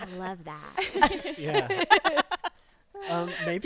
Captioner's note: group laughing